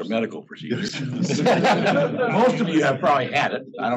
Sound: laugh

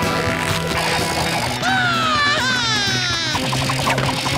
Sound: screaming

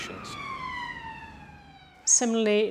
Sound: siren

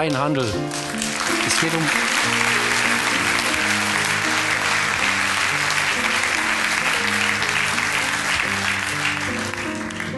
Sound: clapping

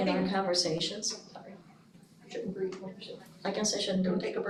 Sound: speaking faintly

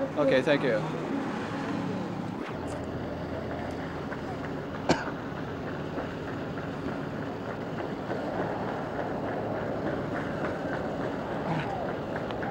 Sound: street noise

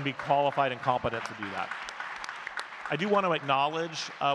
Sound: audience clapping

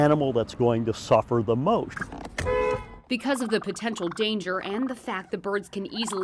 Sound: horn honks

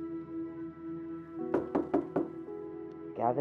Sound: knocking

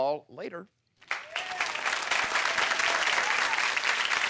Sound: applause

